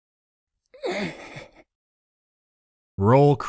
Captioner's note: groans